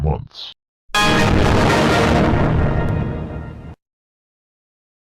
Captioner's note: Windows XP Shutdown Sound.EXE